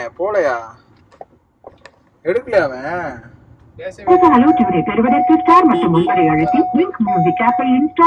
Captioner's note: Caller tone plays